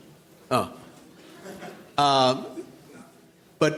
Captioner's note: audience laughs